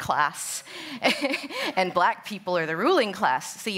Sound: laughs

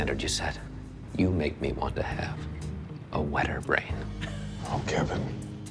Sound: laughs

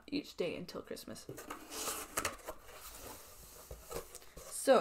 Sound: box shuffling sounds

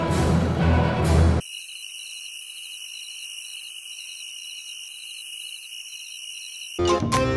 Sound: crickets Chirping

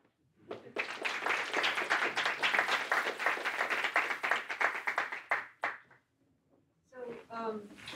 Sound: applause

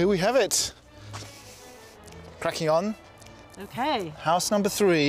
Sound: inhales and sighs

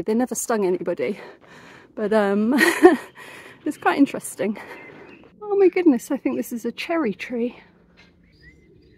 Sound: laughing

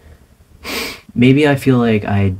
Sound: sniff

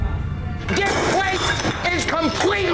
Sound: glass clattering

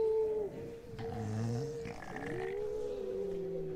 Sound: low growls

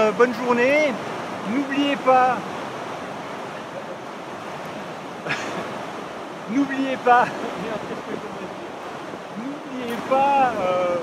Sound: laughs

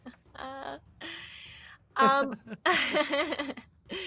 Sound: laughing; chuckling

